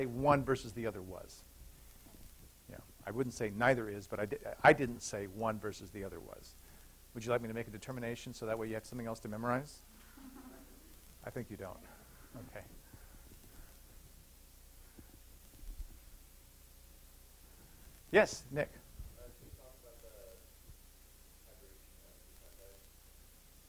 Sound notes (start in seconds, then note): 10.1 laughter